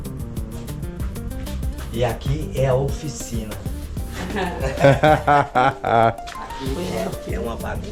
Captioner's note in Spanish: risas